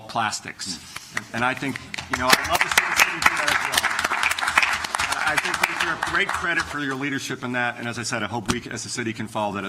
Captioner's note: applause